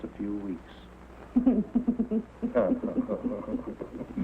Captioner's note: laughter